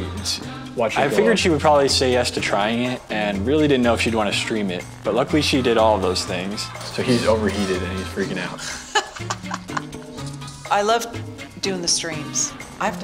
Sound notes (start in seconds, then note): 7.0 laughs